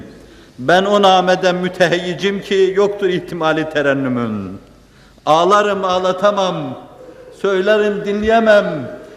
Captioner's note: reciting a stanza